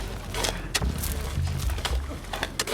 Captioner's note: chatter, coughing